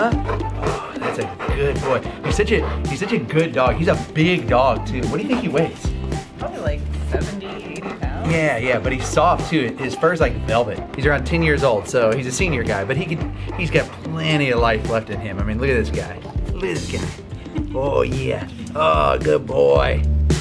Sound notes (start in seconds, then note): 1.8 Bosco breathing